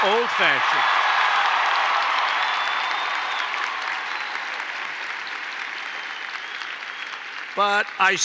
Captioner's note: applause